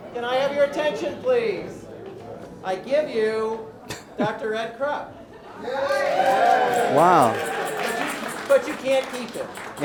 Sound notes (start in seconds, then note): 3.9 chuckle; 5.6 crowd cheers